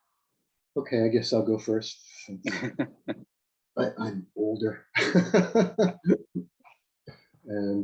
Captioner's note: laughs